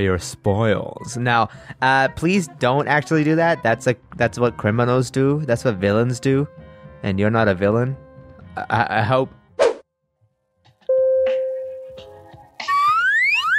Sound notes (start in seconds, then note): 10.8 elevator music; 10.9 door dings